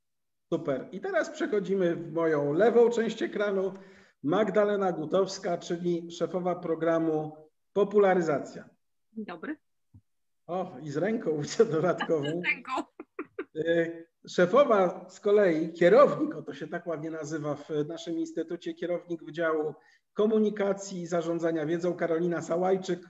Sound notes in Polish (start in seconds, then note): 11.5 śmiech